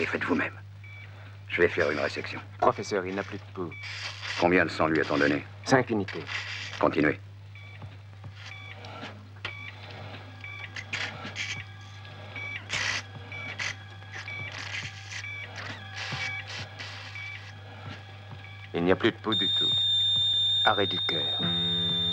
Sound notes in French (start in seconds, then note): 11.4 bip intermittent